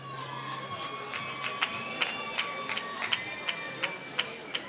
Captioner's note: applause